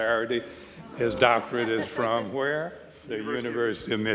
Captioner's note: audience chuckling